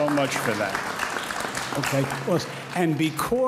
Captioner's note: audience applauds